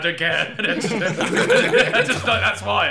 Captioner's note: laughing